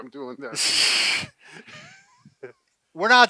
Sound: laughs

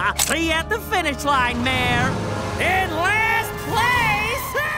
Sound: laughing

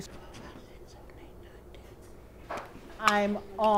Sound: whispering

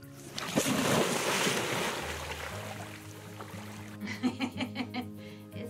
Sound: water splashes; laughs

